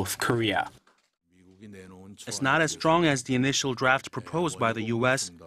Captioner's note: Korean